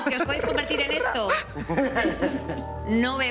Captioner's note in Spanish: Risas